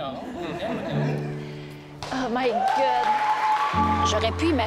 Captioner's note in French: applaudissements